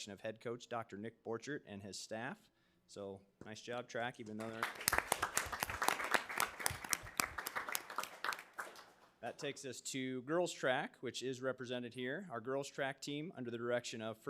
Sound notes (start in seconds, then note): 4.3 audience clapping